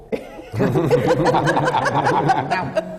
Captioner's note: laughter